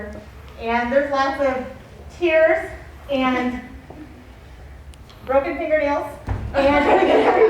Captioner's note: laughs